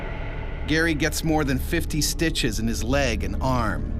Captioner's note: voiceover